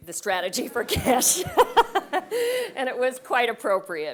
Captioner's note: laugh